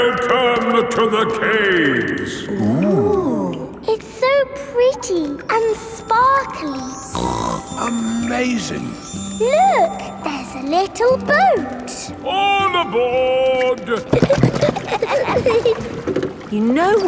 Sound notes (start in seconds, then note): 7.0 snorts; 13.6 giggling